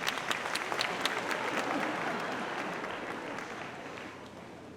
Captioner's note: audience applauding